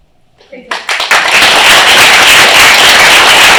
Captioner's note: applause